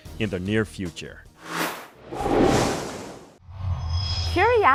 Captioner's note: sound Effects